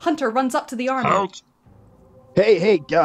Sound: Gnasty voice

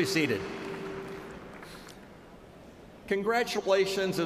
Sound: cheers and applause

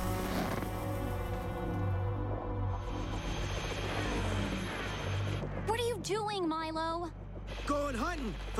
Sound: rubber squeaks

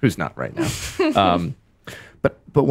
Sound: laughs

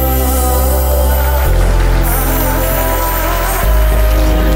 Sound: applause

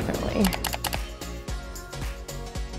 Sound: mouse clicking; upbeat music

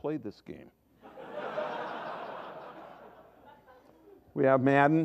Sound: laughter

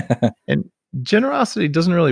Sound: laughs

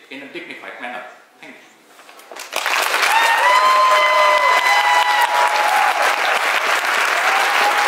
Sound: cheer from the crowd

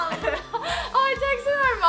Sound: laugh

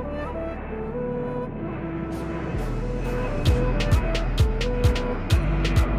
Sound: sound of approaching Airplane

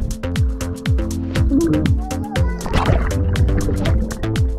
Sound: water bubbling

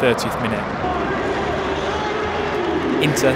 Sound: stadium announcer speaks

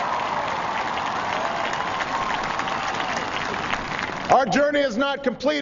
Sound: applause

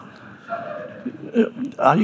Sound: audience chuckling

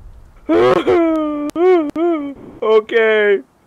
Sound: Hwang weeps

